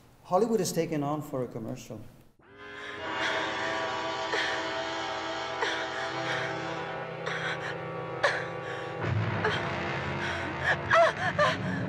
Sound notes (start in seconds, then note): 2.4 dramatic music; 2.9 woman gasping